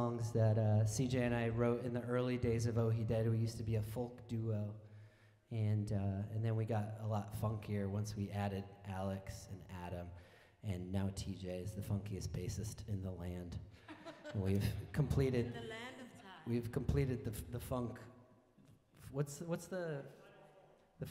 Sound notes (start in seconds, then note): 13.8 laughing